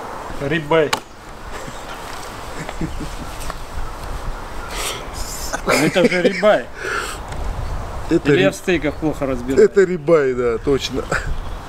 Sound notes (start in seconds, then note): 2.7 laughing